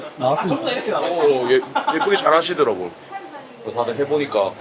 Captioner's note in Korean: 웃음